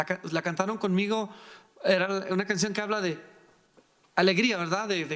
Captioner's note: speaking in foreign language